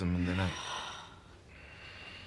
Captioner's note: SlGHlNG